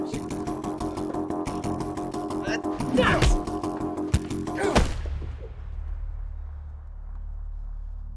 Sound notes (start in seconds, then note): 2.4 grunting; 2.7 smacking